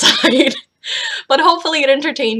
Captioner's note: laughs